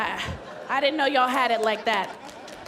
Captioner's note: laughter